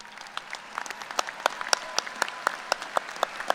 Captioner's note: applause